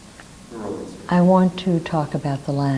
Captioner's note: man speaks off mic